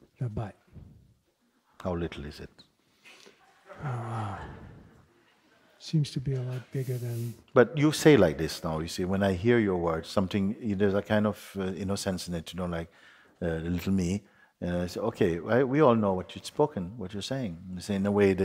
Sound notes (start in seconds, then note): 3.2 soft laughter from the audience